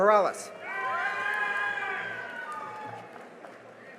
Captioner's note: cheering and applause